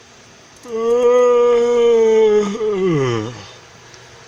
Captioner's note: yawning